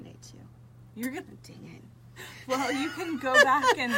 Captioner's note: both laugh